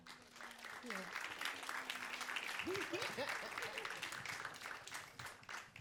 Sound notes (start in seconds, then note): 0.0 audience clapping; 2.6 panelists laughing; 4.2 audience clapping